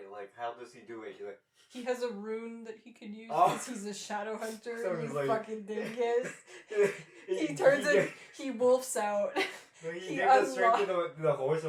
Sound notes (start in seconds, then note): 3.3 sniffing noises; 5.6 laughing; 9.3 laughter; 9.8 laughing